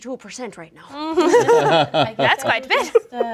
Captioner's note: laughing